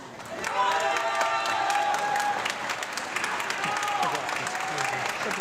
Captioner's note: audience clapping and cheering